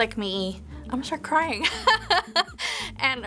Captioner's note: laughs